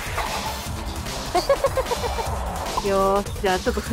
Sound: laughs

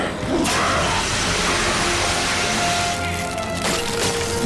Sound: snarls; foam blasting

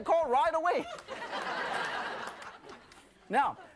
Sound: laughing

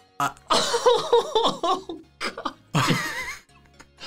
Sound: wailing; laughing

